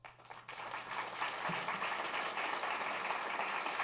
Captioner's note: applause